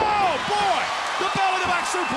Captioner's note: crowd cheering